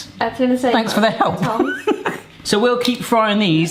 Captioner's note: chuckles